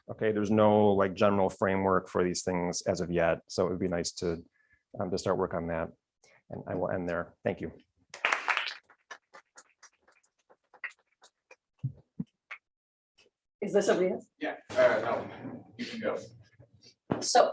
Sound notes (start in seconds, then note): 8.1 applause